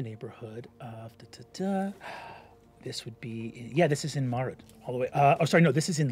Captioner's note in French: fredonne